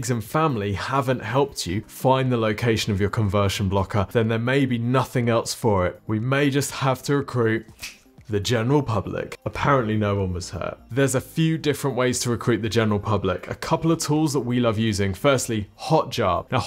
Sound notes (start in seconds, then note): 7.7 snaps